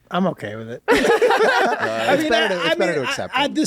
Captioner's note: laughing